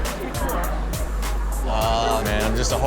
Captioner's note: crowd chatter; upbeat music; Chanel laughs